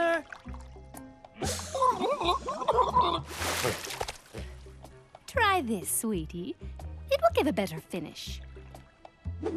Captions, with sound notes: Yoo hoo! Jasper! (Gurgling) Try this, sweetie. It will give a better finish.